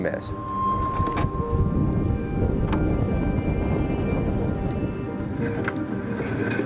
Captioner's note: metal squeaking; gentle music